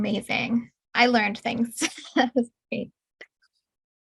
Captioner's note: chuckling